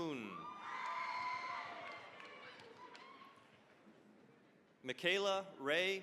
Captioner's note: cheering, applause